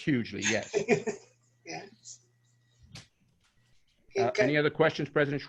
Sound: laughter

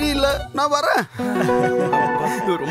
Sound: laughs

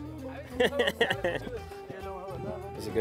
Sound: laughs

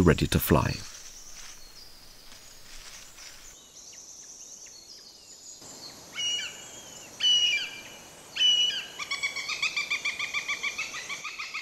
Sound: sounds of nature

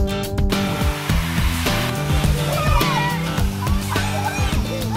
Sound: water spraying

